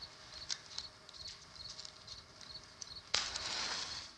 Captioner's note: none